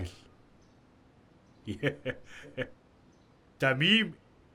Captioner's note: laughs